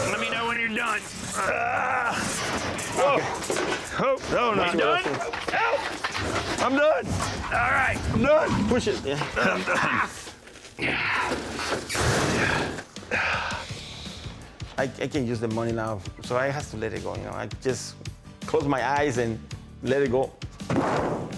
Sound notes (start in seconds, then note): 9.9 grunting; 12.3 sighs